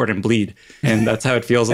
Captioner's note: laugh